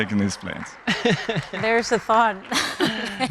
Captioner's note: laughing